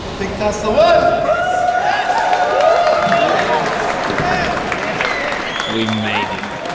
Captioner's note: cheering